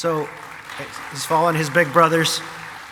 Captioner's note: audience applauding